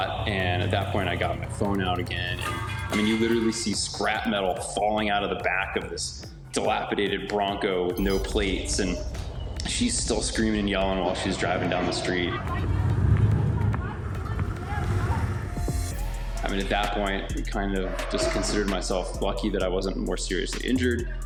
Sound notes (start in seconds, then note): 12.5 yelling